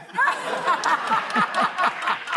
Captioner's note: laughter